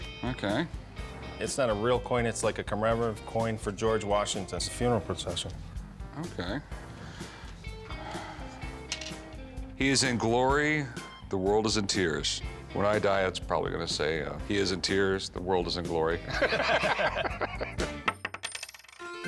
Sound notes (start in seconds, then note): 6.6 exhales; 6.8 coin clatters; 16.2 both laugh; 18.0 coin clatters